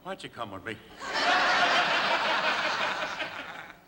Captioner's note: laughter